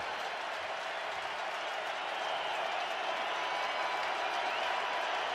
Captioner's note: cheering